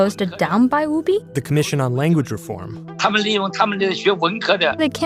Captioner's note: speaking Mandarin